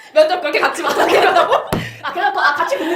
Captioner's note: laughs